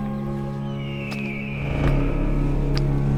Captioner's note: tense music; vultures screeching; tense music